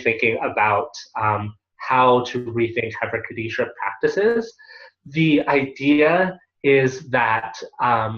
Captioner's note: Hebrew